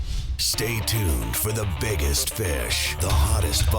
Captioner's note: voiceover